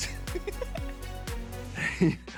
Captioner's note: laugh